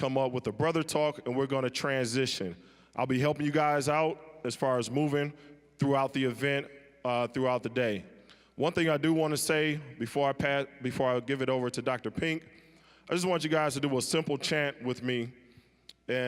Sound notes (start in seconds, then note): none